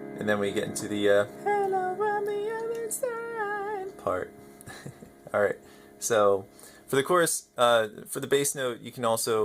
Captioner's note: laughs